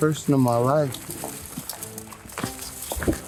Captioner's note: footsteps